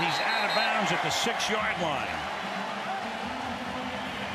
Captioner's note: whistle